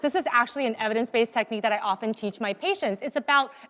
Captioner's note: none